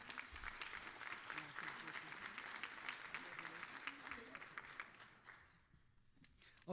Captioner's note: applause